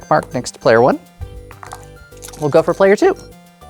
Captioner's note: dice clattering; dice rattling; dice rolling